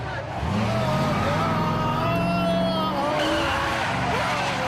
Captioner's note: yelling